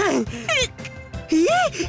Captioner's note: sniffle